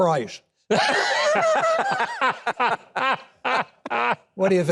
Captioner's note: hosts laughing